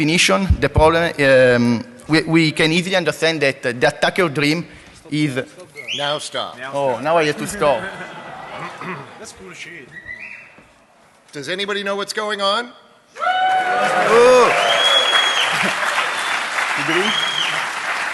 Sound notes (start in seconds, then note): 13.1 cheering; 13.5 applause